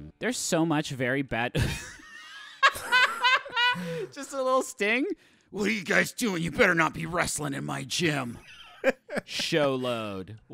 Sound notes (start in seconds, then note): 2.6 laughing; 5.2 imitating Sting; 8.4 laughing